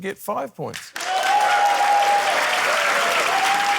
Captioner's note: cheering, applause